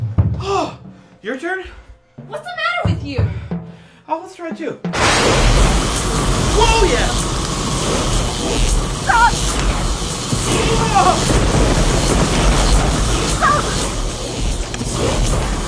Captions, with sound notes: -Whoo! Your turn? -What is the matter with you? -Let's try two. Whoa yeah! -Stop! [INARTICULATE SHOUT] -Stop...